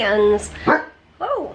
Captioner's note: Ollie barks